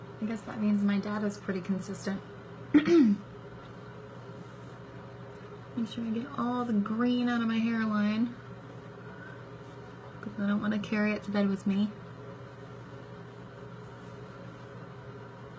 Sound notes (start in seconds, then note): 2.7 clears throat